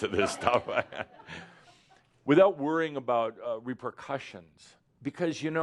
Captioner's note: laughs